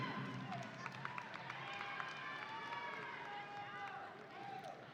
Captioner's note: audience cheering